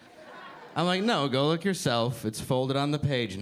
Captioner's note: audience laughing